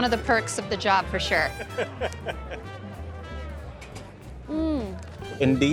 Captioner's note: laughs